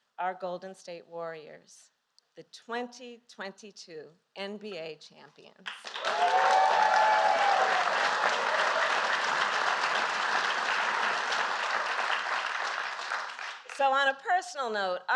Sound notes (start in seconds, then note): 7.2 applause